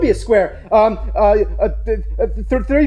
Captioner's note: stammering